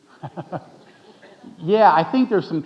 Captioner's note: laughing